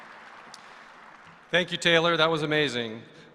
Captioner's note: applause